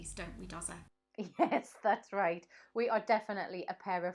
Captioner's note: laughs